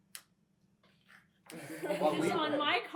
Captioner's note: laughter